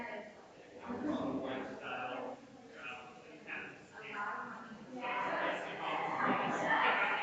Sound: people chattering distantly continues

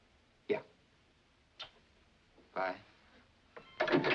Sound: kisses

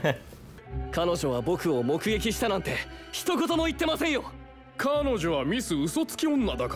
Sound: laughing; characters conversing in Japanese

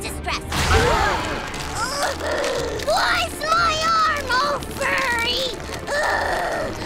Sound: grunting; grunting

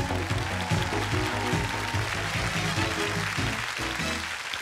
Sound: cheers and applause

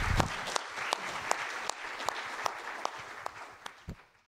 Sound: audience applause

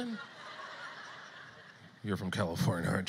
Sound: audience laughter

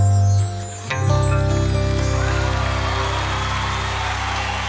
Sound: audience applauding

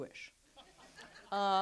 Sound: audience laughs

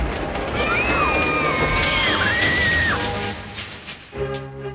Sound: screaming

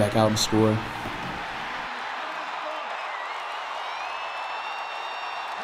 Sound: cheering

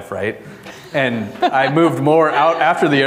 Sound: audience laughing

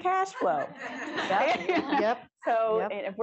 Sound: laughter

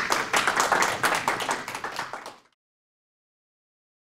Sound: applause

